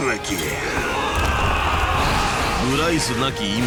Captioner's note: men yelling